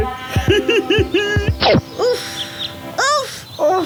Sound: sighs

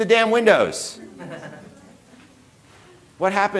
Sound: audience laughing

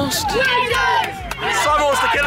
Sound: students chanting

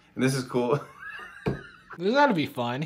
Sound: Jimmy laughing

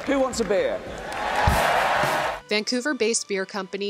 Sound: crowd cheering

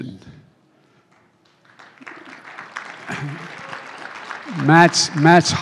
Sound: applause

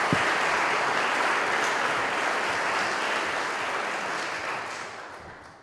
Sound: audience continues applauding

